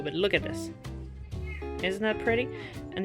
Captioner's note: cat meow